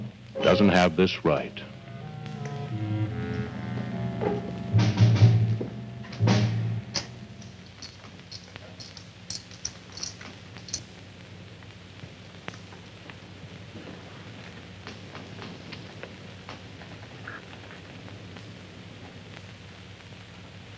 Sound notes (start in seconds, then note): 1.8 suspenseful orchestral music; 9.2 chips rattling